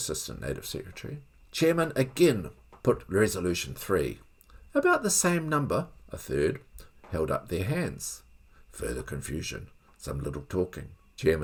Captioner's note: further confusion — some little talking